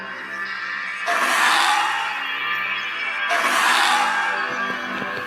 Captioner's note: dinosaur squawking